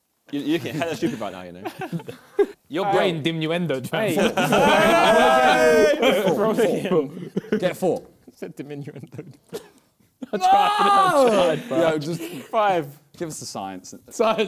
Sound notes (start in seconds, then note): 4.1 laughter